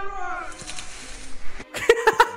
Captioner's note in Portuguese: Risos